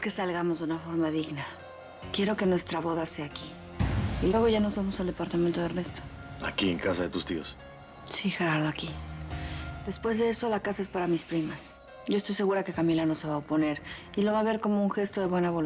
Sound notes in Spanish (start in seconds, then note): none